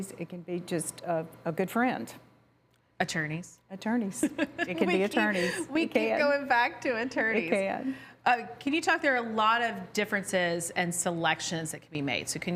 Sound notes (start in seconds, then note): 4.1 laughs